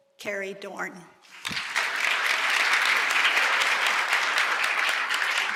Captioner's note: applause